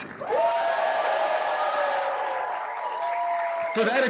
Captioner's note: cheers, applause